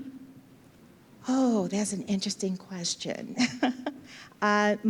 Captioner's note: chuckles